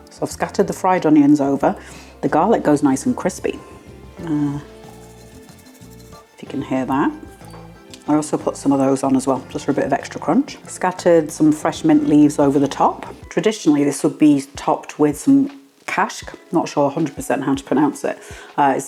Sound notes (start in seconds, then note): 7.1 rustling